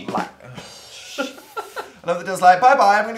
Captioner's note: rimshot; sigh